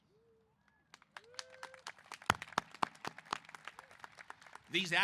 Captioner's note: applause